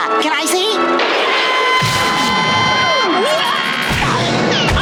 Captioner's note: screaming